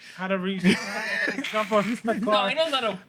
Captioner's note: speaking Spanish